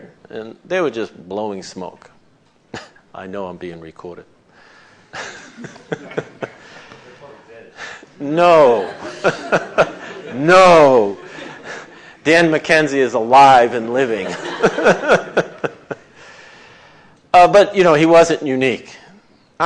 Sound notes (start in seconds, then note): 5.1 laughs; 14.1 laughter